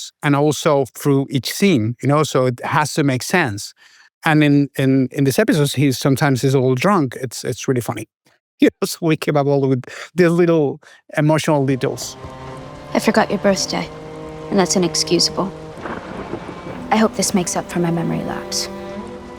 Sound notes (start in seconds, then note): 16.2 thunder rumbles; 19.2 gentle music